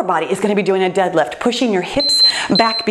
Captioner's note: timer beeps